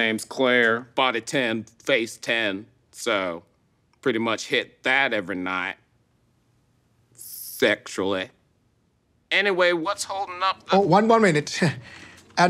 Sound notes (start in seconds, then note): none